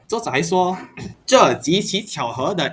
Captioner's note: clears throat